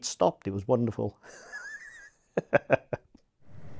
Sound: laughs

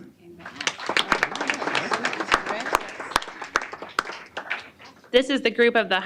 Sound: applause

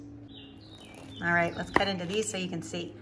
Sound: pastry crunching

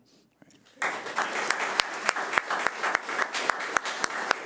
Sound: audience applauding

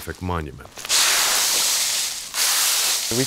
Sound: rake rustling

